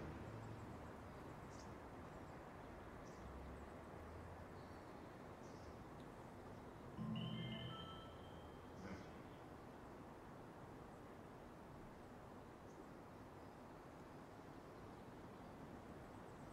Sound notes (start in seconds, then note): 7.0 mobile bleeps - "message"